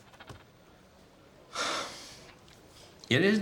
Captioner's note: sighs